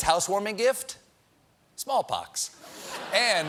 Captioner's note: laughter